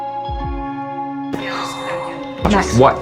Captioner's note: Helen exhales